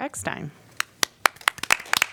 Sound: applause

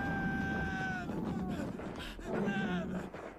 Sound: screaming continues

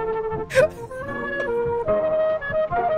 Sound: laughs

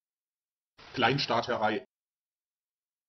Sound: fast Pronunciation

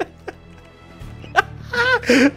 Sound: laughing

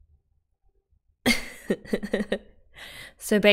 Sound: laughs

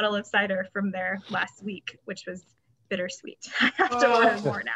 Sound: laughs

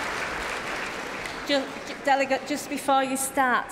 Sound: applause

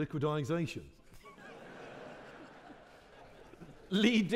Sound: audience laughing

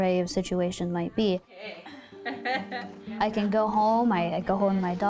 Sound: laughter

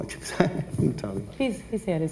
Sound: laughs

